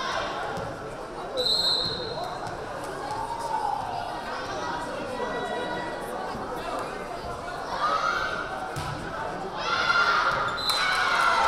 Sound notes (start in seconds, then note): 1.4 whistle blaring; 10.6 whistle blaring; 10.6 crowd cheering